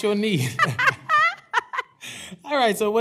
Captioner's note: laughter